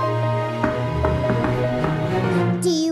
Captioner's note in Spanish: Golpeando